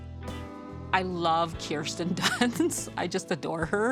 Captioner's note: chuckles